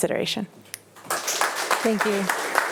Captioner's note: attendees applauding